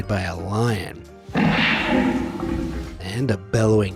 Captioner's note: lion growls